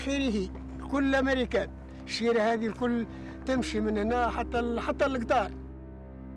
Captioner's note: speaking in foreign language